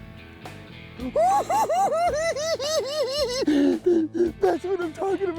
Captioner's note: cackles